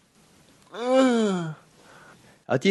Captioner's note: moan